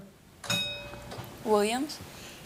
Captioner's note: buzzer buzzes; bell dings